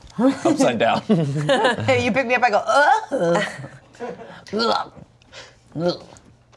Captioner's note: groans